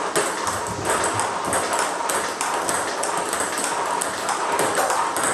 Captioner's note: ball ping pong hitting continues